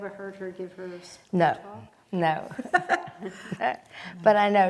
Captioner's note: laughing